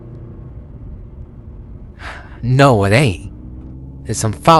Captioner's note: sighs